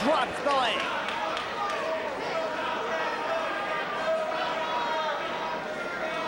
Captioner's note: spectators cheering and applauding